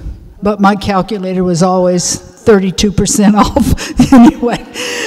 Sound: giggles

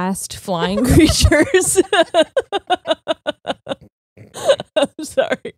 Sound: both laughing

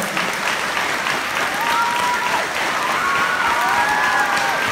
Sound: applause

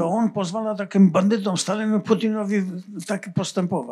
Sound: foreign language

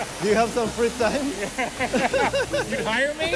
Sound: laughs; both laughing

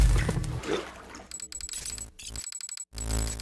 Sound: ruido estático

